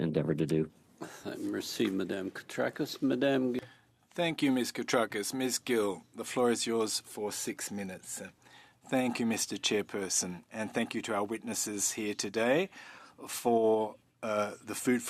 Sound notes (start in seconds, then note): 5.3 speaking French